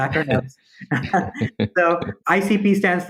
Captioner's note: chuckles